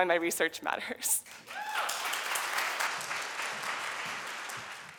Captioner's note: applause